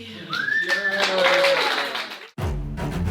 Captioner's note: whistling